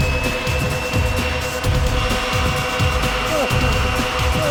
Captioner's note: blower whooshes